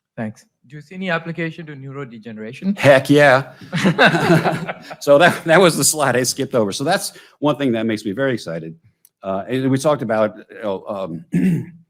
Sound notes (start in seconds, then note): 3.5 both laughing